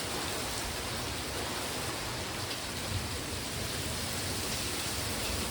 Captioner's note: intense rainfall